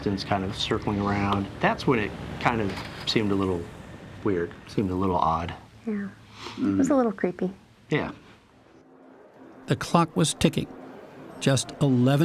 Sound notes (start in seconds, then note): 10.1 voice-over